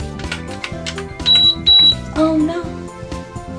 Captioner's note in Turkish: yüksek sesler